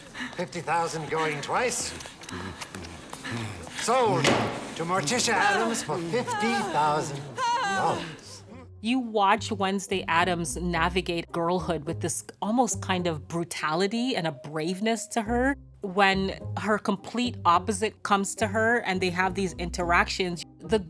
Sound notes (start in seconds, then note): 7.3 Gomez moans; 7.3 Morticia moans